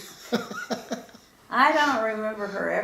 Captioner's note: laughing